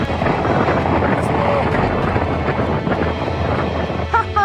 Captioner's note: very strong wind